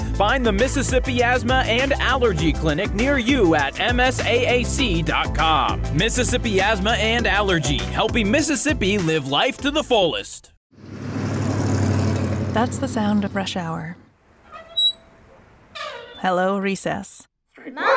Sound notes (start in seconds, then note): 10.7 engine rumbles; 14.4 squeak; 17.8 barking